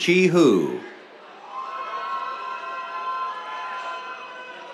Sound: cheers

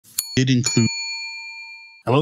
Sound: bell ringing

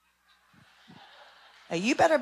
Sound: laughing

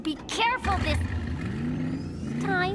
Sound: engine revs

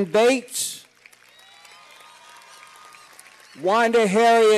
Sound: cheers and applause

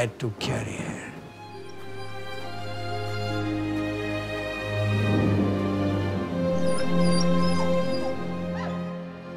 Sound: dog whining

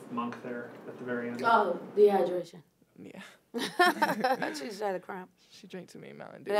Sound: laughs

